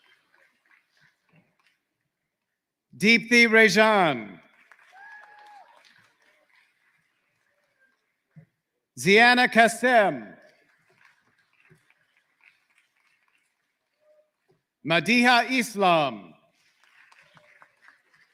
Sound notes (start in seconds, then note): 6.3 applause